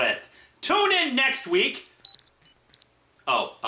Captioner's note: beep-beep-beebeep-beep-beep